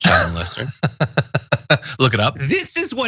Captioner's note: laugh